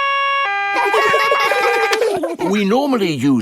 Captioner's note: siren stops; siren wailing; kids laugh